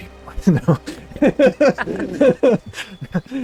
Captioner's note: laughter